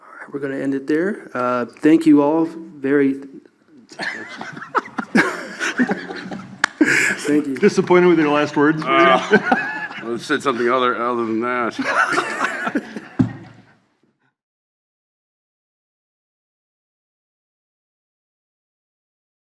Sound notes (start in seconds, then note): 3.9 panelists laugh; 11.7 laughs